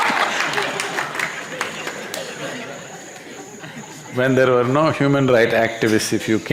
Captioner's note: laughter